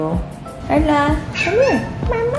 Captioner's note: Aila Meows